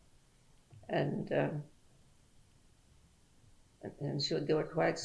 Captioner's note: pauses for 3 seconds